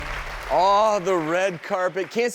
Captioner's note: audience applauding